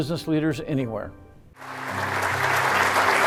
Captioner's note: audience applauding